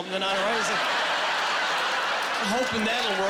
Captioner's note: laughing